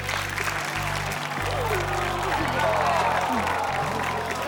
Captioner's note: audience aws